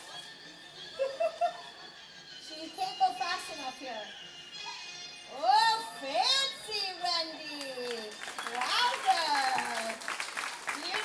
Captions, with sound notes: (laughing) She can't go fast enough here. Oh fancy, Wendy. (clapping) Wowzer, beautiful.